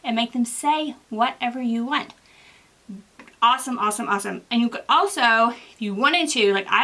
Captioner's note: none